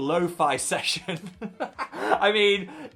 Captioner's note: host laughs